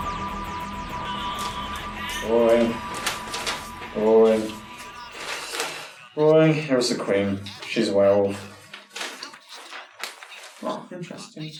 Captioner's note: turning newspaper pages